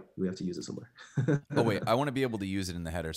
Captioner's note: chuckles